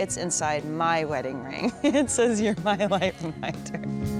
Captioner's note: laughs